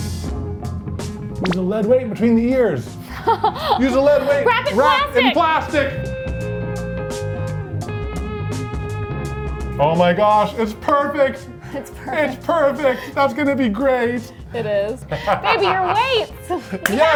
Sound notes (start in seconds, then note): 3.0 laughs; 8.3 upbeat music